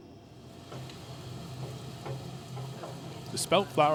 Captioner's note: engine roaring